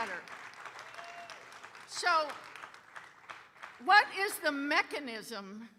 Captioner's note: audience cheering and applauding